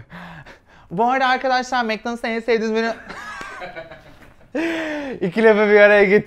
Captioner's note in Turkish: gülüşme